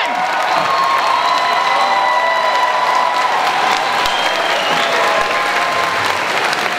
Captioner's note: audience cheering and applause